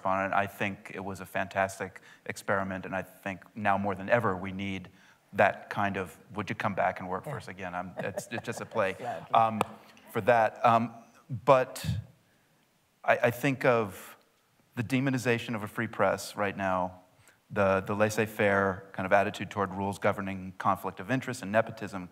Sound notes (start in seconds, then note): 8.0 laughter